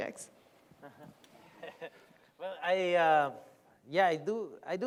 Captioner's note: laughs